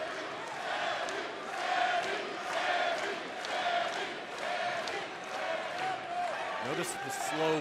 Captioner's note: fans chanting